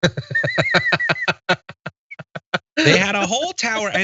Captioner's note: laugh